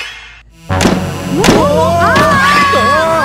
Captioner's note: Both scream; Door opens